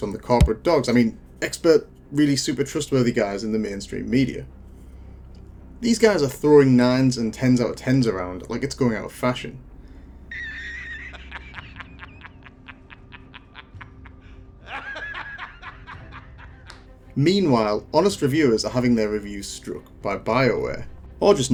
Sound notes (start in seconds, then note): 14.7 laughing